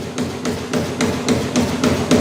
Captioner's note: dull knocking